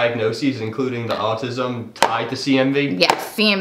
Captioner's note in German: Tasse klopft auf den Tisch